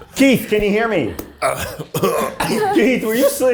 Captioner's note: coughing